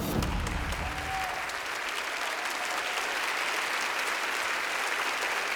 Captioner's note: audience applauding